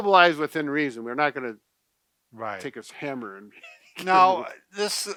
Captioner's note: laughing